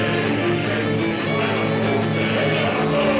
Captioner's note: chanting